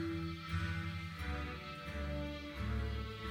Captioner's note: none